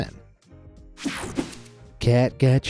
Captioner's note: screen whooshing